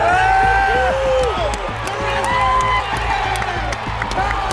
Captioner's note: cheering